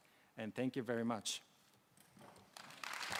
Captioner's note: applause